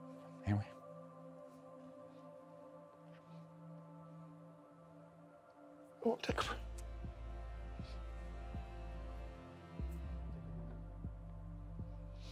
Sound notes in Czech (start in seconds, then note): 4.8 potlačuje pláč